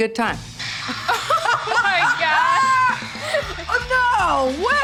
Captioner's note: laughter